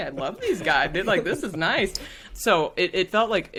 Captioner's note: all laughing